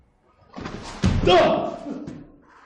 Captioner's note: loud gasp